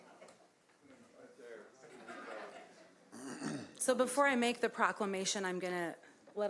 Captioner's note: laughter